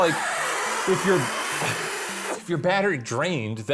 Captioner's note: inhaling